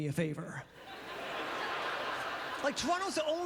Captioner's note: audience laughter